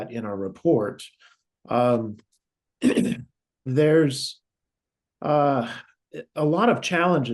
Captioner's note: cough